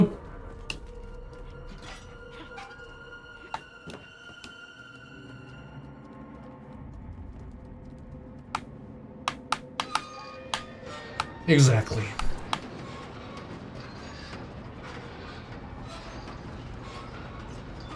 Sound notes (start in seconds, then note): 0.7 tapping